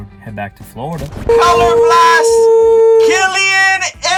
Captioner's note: static T.V. Noise